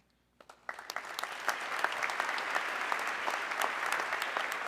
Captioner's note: audience clapping